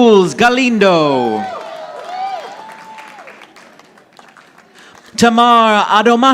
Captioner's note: audience applauding